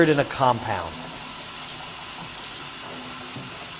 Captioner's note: machine whirring